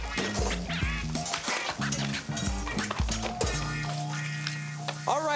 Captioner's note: grill sizzling and plates shuffling